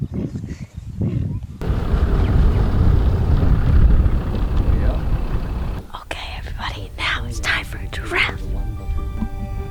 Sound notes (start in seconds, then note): 5.4 whispering